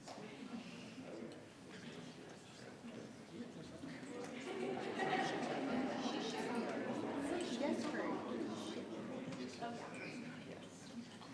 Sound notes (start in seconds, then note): 3.3 attendees chattering continues